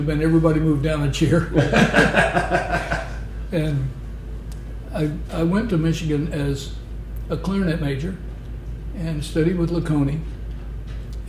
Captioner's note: laughter